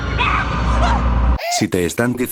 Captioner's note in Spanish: grito